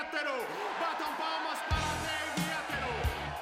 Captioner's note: all cheering